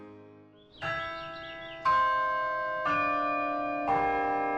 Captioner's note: bells chiming